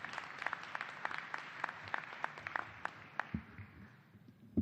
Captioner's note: applause